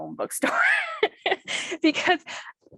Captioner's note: laughs